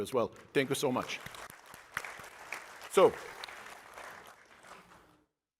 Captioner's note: applasue